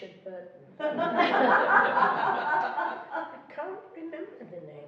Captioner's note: laughing